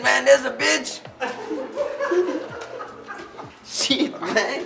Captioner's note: laughter